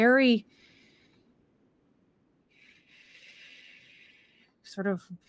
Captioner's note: Deborah breaths slowly